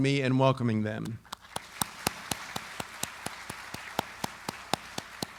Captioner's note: audience applauding